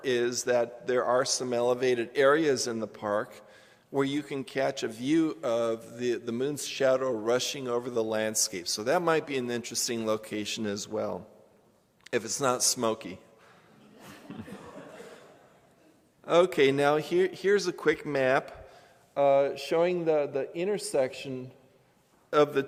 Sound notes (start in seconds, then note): 13.7 laughter